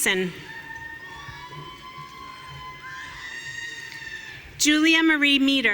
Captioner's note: audience cheering